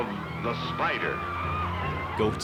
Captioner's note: people screaming